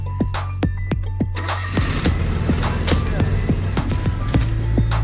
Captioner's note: engine revving